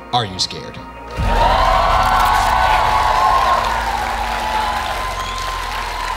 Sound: audience cheering, applauding

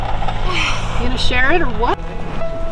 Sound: sighs

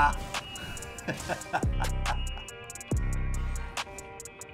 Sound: laughter from the strongest person in the world

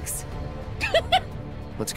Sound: laugh

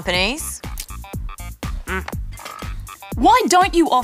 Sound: grunts

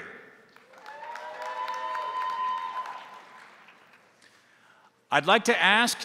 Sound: crowd applauding; crowd cheering

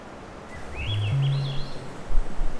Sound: birds chirping; light music

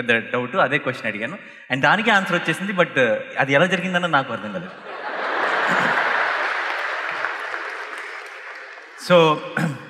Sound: applause

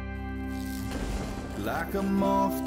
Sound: lightning crackles and strikes

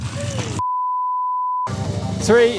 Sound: beep

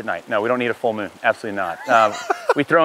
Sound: laughing

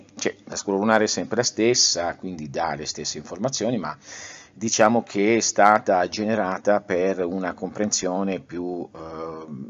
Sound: in Italian

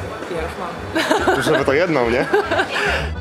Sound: laughs

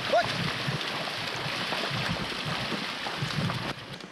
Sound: man shouts

